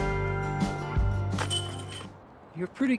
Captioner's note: clang